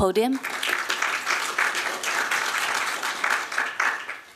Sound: applause

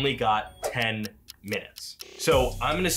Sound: clock ticking

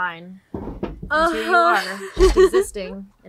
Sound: laughs

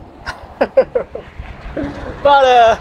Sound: laughs

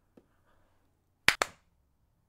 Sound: clap

